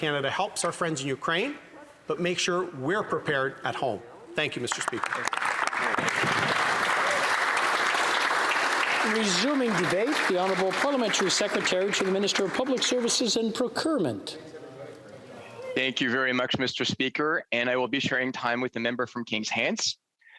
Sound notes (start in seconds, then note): 10.8 some Applause